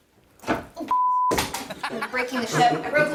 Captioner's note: laughs